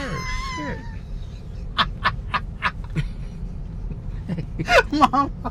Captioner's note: laughs